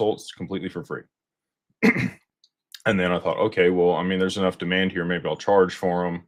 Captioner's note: clears throat